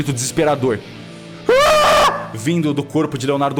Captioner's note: scream